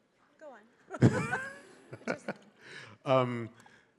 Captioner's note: both laughing